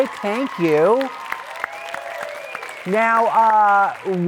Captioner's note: audience claps